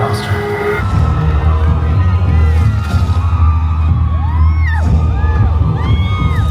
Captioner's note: tensed music; guests cheering